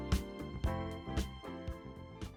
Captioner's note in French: applaudissements